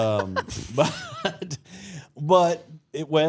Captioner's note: group laughs